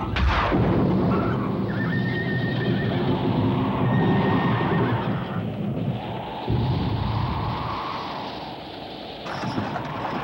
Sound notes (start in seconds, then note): 0.0 thunder clapping; 0.3 wind howling; 2.2 horses whinnying